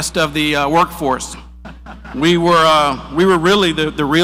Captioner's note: audience laughs